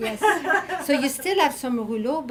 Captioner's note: audience laughing